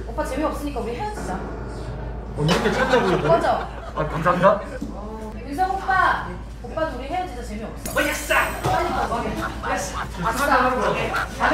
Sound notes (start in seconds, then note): 2.5 surprised; 10.2 laughter